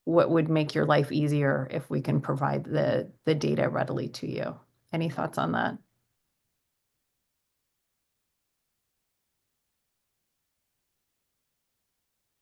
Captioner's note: silence